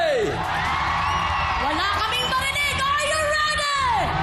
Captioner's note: audience cheering